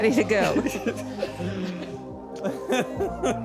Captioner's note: laughter